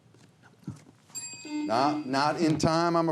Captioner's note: bell dinging